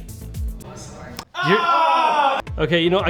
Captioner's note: group groans